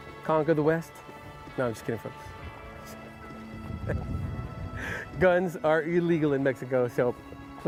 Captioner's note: chuckle